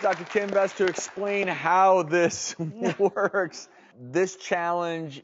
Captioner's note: laughs